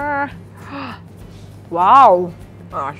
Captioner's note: gasps